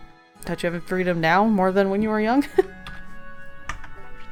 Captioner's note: laughs